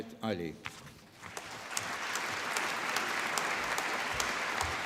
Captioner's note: applause